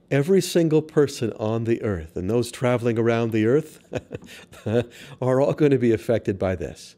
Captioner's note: laughs